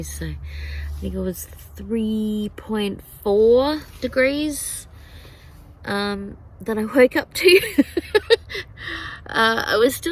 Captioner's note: laughs